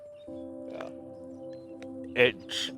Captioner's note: laughing cheerfully